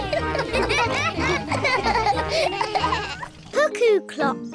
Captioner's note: all laugh